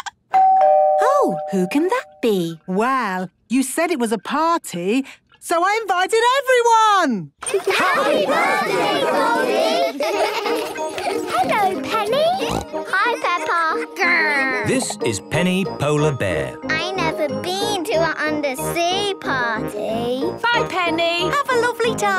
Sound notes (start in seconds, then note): 9.7 laughter; 12.3 snorting